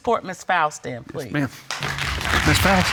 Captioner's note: audience applauding